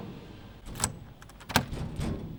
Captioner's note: locked door sound